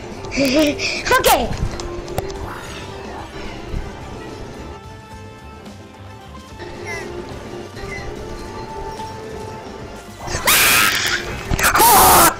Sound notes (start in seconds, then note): 10.3 screams softly; 11.5 screamsaaaaaaaaaaaaaaaaaaa